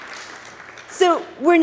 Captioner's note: audience applauds